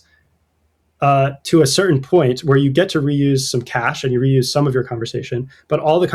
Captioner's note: uh